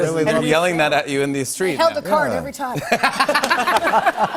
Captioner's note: laughter